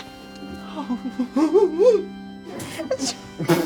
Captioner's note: crowd applauding; crying; crowd laughing